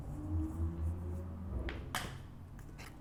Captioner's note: loud cars in the background